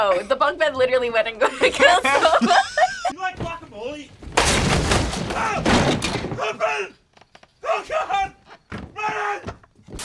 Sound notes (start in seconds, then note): 1.4 laughs; 4.6 bed clatters; 5.3 screams